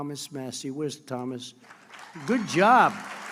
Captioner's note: applause